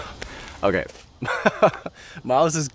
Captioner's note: laughs